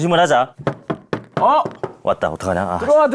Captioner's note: knocks